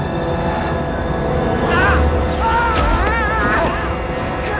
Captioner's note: yells